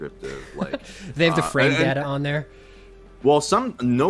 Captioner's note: chuckles